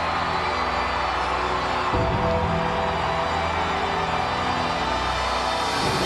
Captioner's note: audience continues cheering